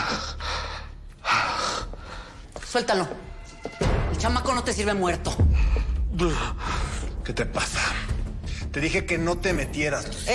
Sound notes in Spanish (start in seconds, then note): none